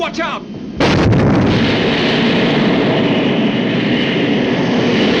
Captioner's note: wind blowing hard